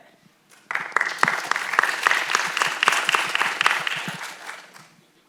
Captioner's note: audience applauds